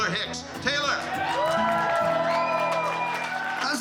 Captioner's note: crowd cheering, clapping